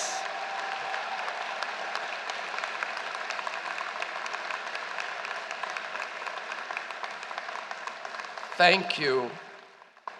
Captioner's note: applause